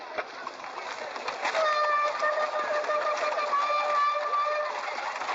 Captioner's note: hooves clattering; horn blowing; hooves clattering